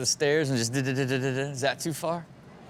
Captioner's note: mimicks the sound from falling down stairs